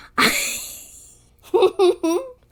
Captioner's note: laughs